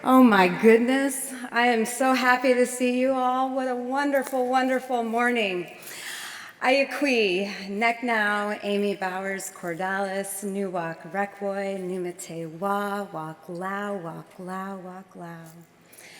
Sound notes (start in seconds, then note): 8.8 speaks native language